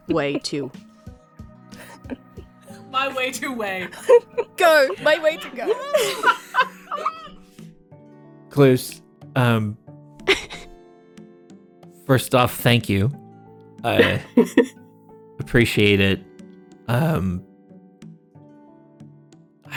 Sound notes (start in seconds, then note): 3.8 SOMEONE laughs